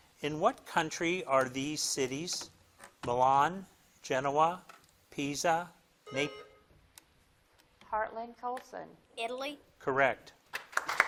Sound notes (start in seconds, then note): 6.0 buzzer dings